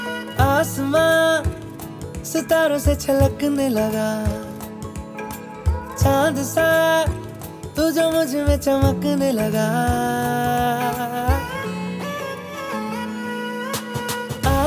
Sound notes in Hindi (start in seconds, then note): none